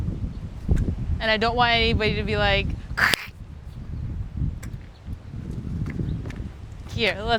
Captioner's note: makes sound effect of phone cracking